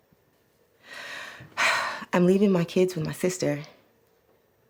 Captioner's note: sigh